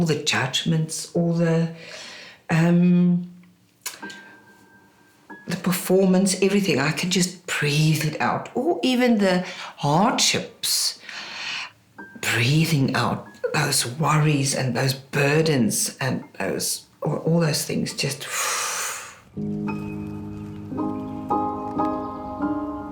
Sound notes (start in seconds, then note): 18.3 exhale